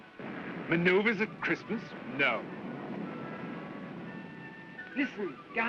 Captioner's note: rumbling in distance